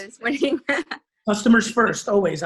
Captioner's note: laughs